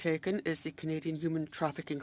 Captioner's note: speaking French